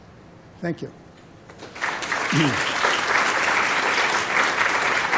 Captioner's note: applause